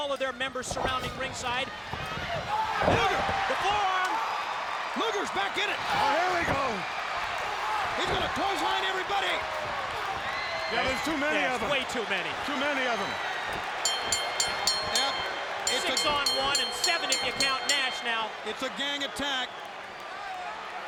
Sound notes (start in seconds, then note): 3.9 audience cheering; 10.1 audience cheering; 13.8 bell ringing